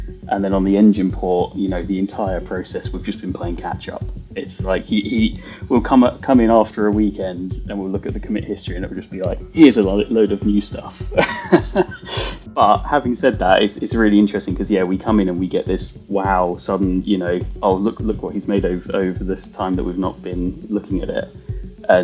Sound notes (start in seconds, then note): 11.1 laughs